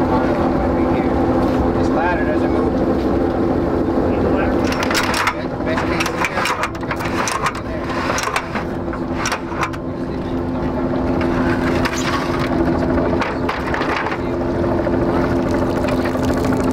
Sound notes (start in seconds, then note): 0.5 crew murmurs